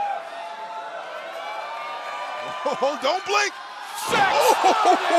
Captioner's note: crowd cheering